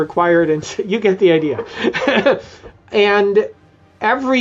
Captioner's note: laughs